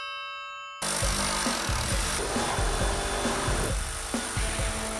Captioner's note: triangle rings; saw buzzing